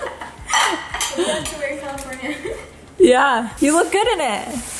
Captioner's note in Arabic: ضحك